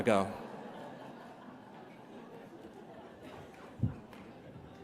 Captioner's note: laughter